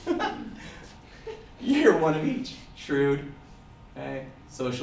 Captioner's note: audience laughter